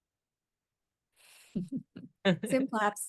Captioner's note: laughs